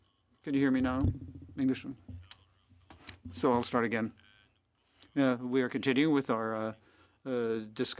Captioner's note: speaking French